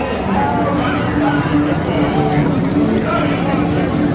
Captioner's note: people chattering